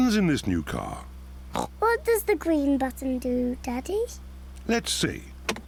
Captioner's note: oinks